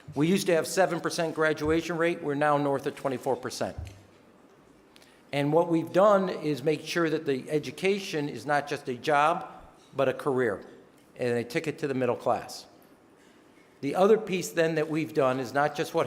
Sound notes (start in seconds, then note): none